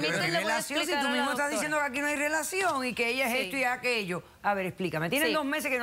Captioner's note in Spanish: Hablan al unísono